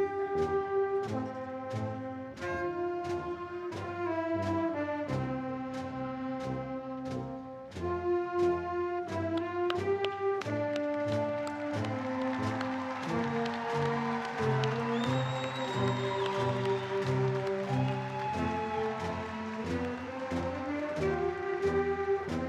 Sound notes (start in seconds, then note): 11.0 audience and graduates applauding; 13.1 audience and graduates cheering; 18.4 solemn band music continues